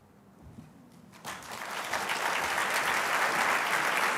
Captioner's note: applause